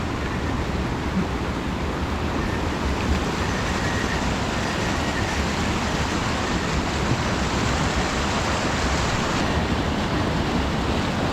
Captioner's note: gushing stream